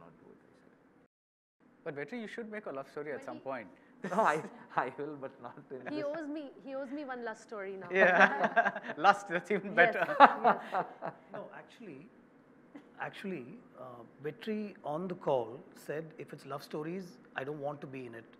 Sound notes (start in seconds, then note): 7.8 laughs